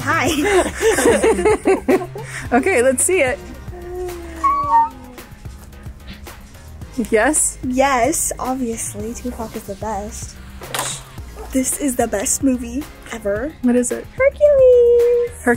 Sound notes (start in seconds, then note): 0.2 group laughs; 3.6 squeals; 10.7 hanger clacks